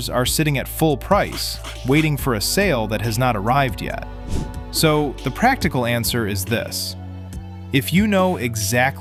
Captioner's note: thoughtful